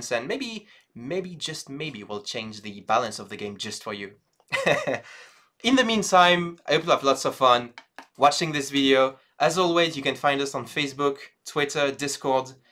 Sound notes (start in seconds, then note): 4.5 laughs